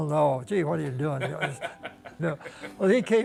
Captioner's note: laughs loudly